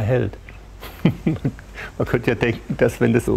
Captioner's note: laughs